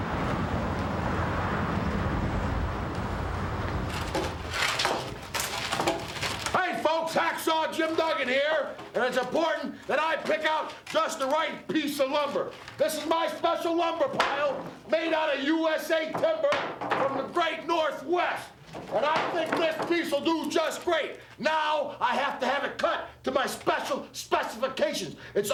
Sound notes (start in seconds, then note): 0.0 cars humming; 4.2 wood panels clattering